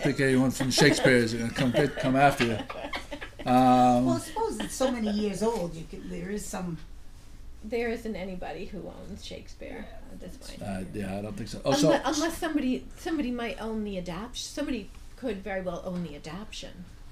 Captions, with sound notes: I don't think anyone from Shakespeare is gonna come after ya. - [Voiceover] Well suppose it's so many years old, you could, there is some... - [Voiceover] There isn't anybody who owns Shakespeare at this point. - [Voiceover] I don't think so. - [Voiceover] Unless somebody might own the adapt, somebody could very well own the adaption